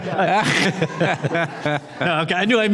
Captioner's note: all laughing